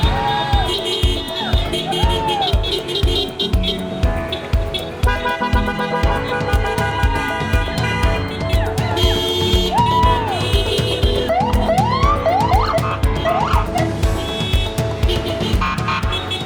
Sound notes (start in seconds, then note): 0.0 police sirens; 0.3 horns honking; 6.8 crowd cheering; 11.5 police sirens